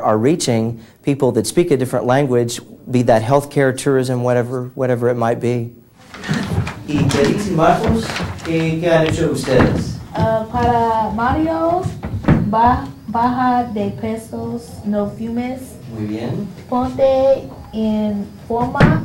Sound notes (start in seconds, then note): 6.6 students speaking Spanish